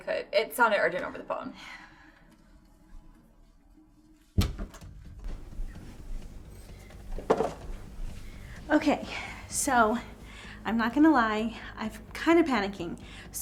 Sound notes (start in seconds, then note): 4.4 door latching